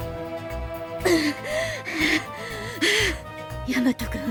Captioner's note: huff